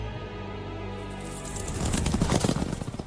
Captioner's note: chariot and horses galloping